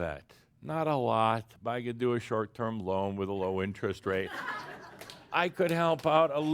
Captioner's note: laughter